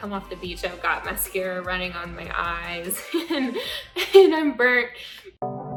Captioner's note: laughing